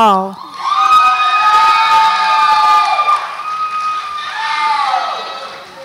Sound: audience applauds and cheers

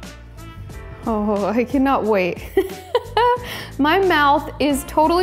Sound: laughs

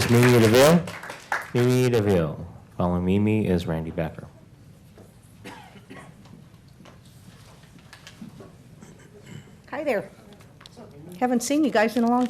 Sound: applause

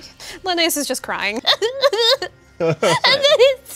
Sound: sobs

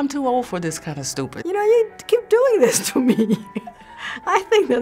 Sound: laughs

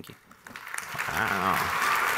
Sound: audience clapping

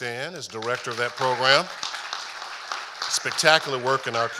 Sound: audience applauding

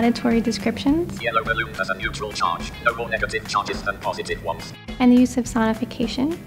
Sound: computer Voice

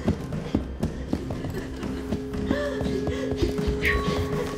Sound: sobbing

